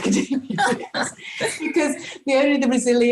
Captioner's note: group laughs